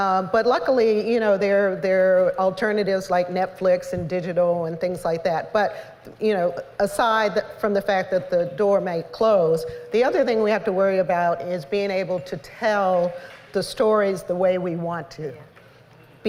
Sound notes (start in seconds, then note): none